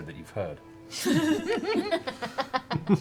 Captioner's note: laughter